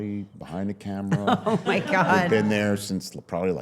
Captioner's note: laughs